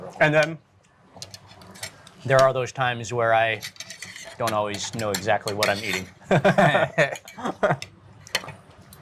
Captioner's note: laughs